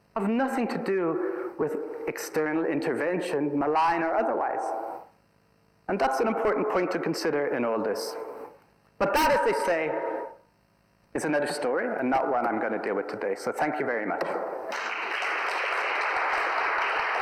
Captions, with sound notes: have nothing to do with external intervention, malign or otherwise. And that's an important point to consider in all of this. But that is to say, it's another story, and not one I'm gonna deal with today, so thank you very much. (applause)